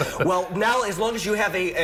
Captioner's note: laughter